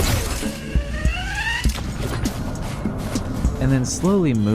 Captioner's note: grappling hook sound effects